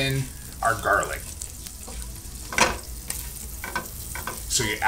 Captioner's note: pan sizzling and thudding